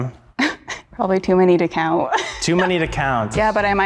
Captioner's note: chuckling